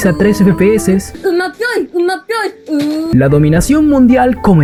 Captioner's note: babbling